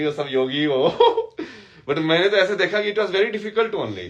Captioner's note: हंसी